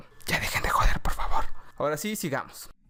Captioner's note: whisper